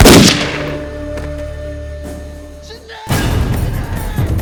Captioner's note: gunshot